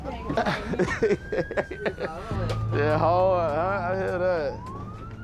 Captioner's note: laughing